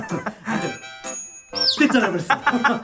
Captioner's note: ding